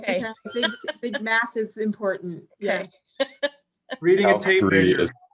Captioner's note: laughs; laughs